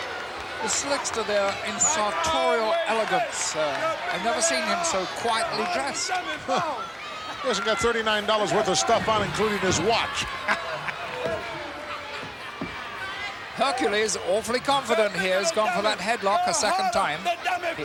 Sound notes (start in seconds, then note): 10.0 laugh